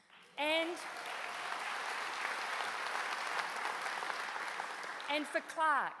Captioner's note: applause